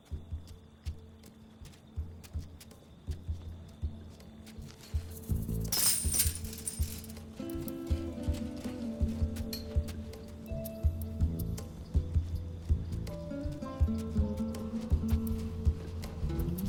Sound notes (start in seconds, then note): 4.8 fence rattles; 7.8 mysterious music